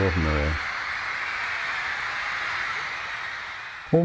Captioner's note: crowd cheering